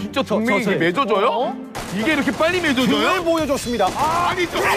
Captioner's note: firing shots